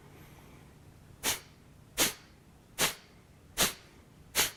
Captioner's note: sharping exhaling